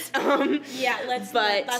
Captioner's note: laughs